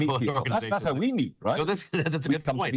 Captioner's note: laughing